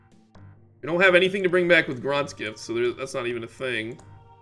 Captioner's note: none